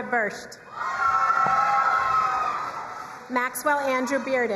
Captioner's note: crowd cheering and applauding